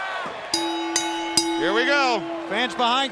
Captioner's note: crowd cheering; bell ringing